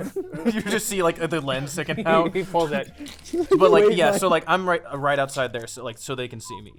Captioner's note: laughing